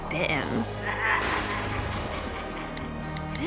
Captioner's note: sinister laughing